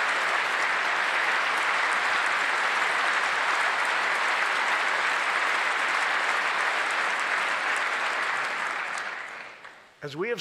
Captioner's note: applause